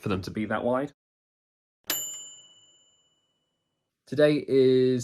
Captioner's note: bright bell dinging